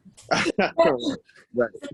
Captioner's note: laughing